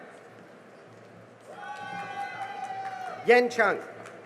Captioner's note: cheering and applause